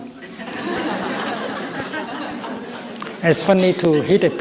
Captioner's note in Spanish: Risas